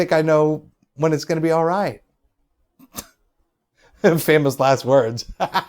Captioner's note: chuckles; laughs